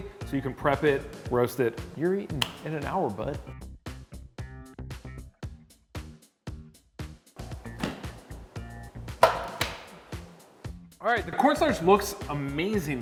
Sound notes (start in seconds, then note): 2.4 upbeat music; 9.2 tray clattering